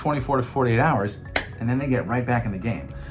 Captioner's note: hands clap